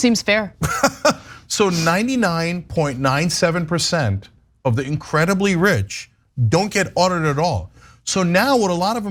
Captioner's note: laugh